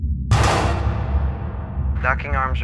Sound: metallic clang

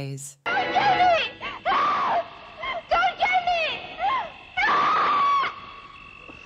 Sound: woman screaming

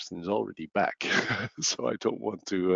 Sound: laughs

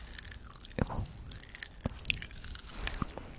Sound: candies are popping!!

